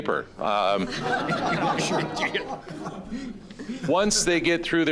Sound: audience laughing

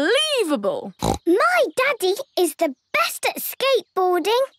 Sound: snorts

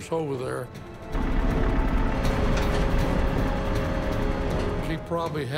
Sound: tanks rumbling

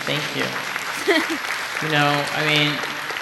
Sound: applause

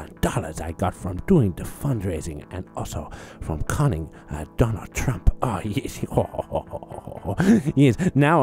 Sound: laughs

